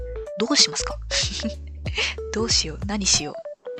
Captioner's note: laughs